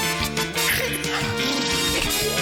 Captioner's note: blubbers lips; snorts; gasps